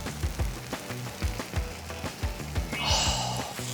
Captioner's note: sniff